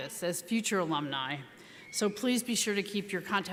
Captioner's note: none